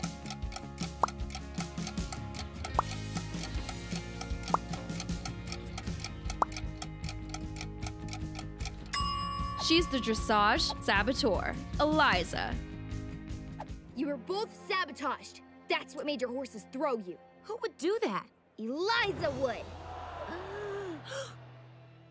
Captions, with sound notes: [pop] [pop] [pop] [pop] [timer rings] She's the dressage saboteur, Eliza. You were both sabotaged! That's what made your horses throw you. Who would do that? Eliza would! [crowd gasps]